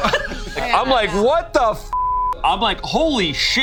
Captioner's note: beep